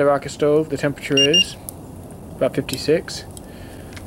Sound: thermometer beeps

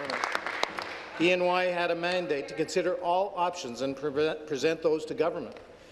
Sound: applause

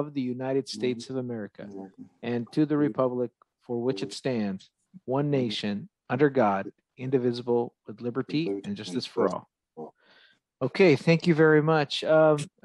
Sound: reciting the pledge of allegiance

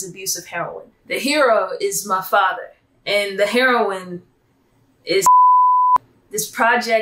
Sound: beep

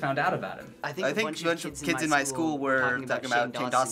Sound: reciting along

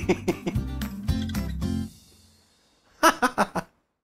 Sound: laughs; music resolves

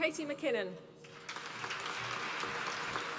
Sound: applause

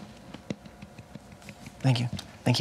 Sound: clapping

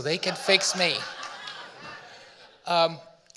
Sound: audience laughing

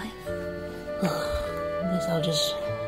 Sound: sighs

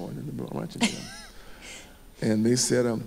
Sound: chuckles

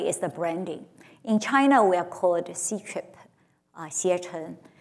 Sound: speaks Chinese

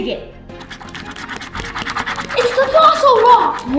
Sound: scratching

